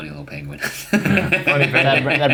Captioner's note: laughs